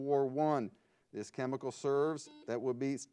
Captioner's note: buzzer beeps